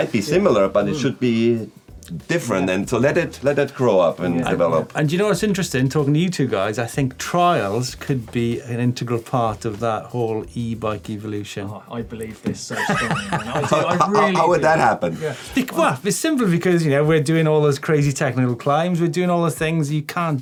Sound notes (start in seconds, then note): 12.7 laughing